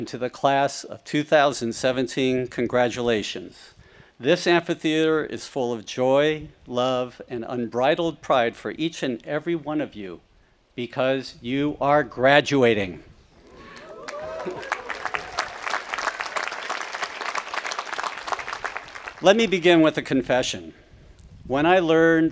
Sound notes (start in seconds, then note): 13.4 audience applauding